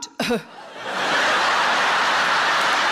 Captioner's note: audience laughing; cough